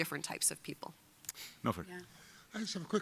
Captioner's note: mumbles